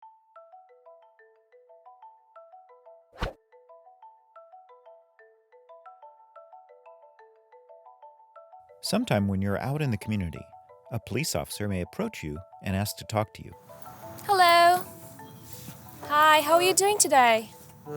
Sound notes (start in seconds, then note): 0.0 relaxing music; 3.2 air whooshes; 4.3 relaxing music